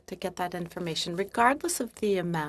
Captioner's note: speaking French